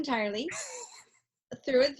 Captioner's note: laughs